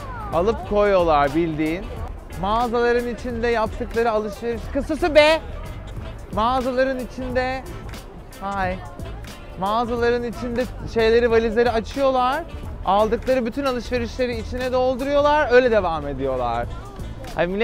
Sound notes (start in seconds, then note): none